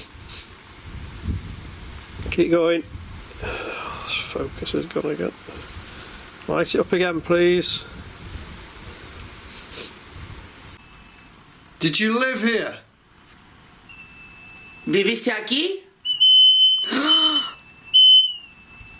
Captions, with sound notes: keep going. Focus has gone again. Light it up again please. - Did you live here? (speaking in foreign language) (beeping)